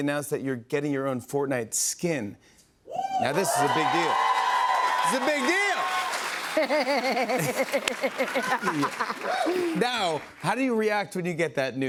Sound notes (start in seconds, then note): 5.8 cheers and applause; 6.4 laughs